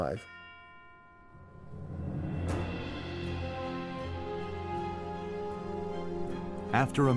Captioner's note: bell chiming; light instrumental music